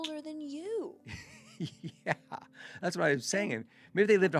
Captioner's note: laughs